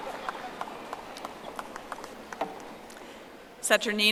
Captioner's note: audience applauding